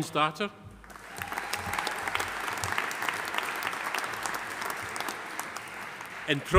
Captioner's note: audience applauding; audience cheering